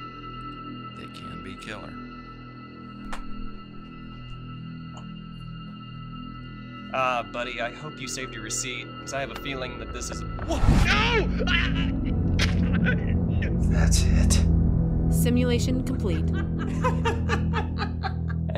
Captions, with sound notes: They can be killer. Buddy, I hope you saved your receipt. 'Cause I have a feeling that this is - No. (Conner grunting) (knife slicing) That's it. Simulation complete. (couple laughing)